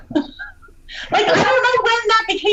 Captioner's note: laughs